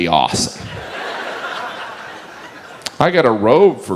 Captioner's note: audience laughs